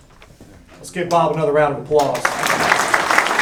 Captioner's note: applause